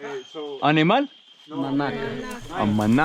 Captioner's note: speaking in foreign language